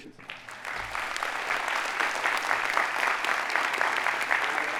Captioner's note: audience applauding